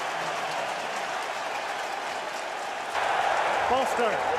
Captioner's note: cheering